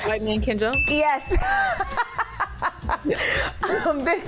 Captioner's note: laughing